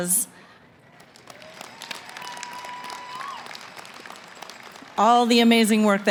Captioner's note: applause